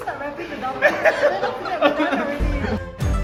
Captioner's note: teachers laugh